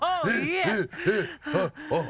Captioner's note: panting